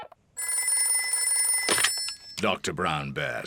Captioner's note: beeping; phone rings